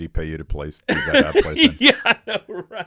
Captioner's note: Chad laughing